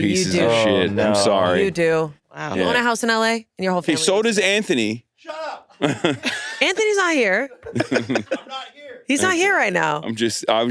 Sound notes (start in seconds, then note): 5.7 all laughing; 7.5 Hasan laughs